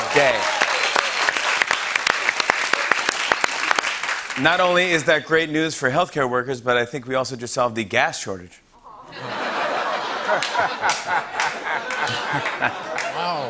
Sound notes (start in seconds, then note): 0.0 cheers and applause; 8.9 laughter